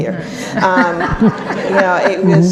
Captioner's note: audience laughs